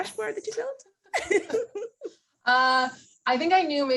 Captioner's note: laughs